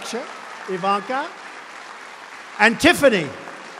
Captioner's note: applause